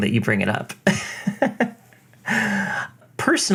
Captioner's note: laughs